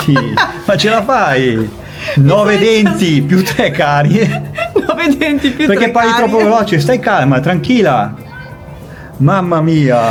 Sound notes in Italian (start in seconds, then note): 2.2 risate